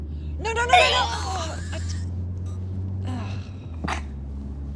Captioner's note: Oliver retching